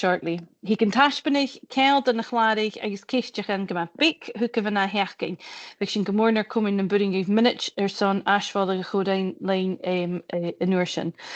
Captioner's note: closing remarks in Gaelic